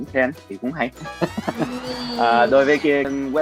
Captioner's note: laughing